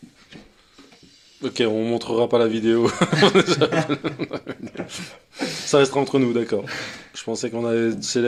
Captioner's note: laughs